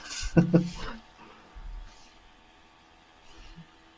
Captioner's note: laughing